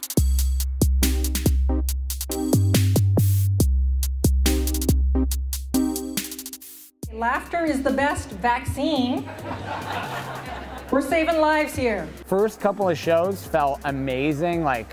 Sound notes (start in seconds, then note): 0.2 electro music; 9.0 crowd laughing